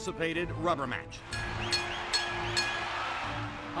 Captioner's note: bell rings